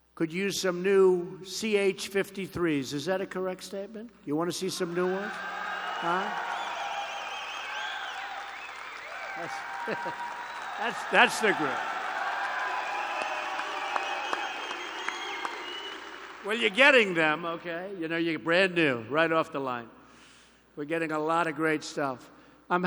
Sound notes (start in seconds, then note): 6.7 applause; 9.4 laughter